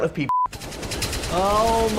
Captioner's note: gun firing